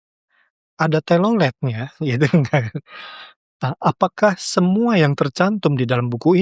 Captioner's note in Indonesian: tertawa